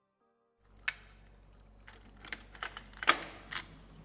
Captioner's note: door unlocking